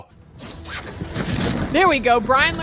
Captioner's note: parachute flapping